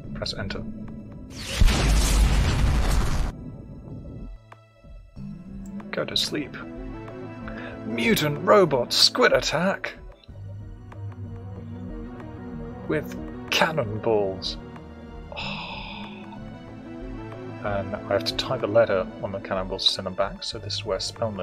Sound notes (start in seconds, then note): 15.3 sigh of excitement